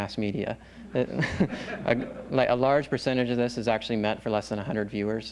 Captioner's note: laughs